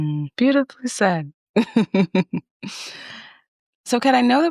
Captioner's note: chuckles